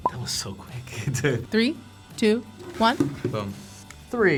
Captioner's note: chuckles